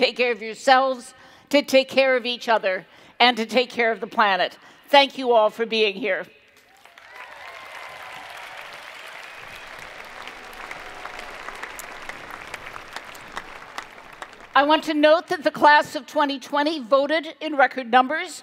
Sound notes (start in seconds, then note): 6.6 cheering and Applause